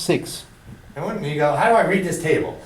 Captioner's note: voiceover